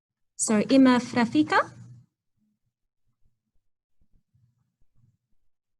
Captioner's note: speaking in foreign language